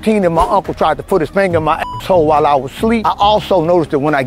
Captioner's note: beep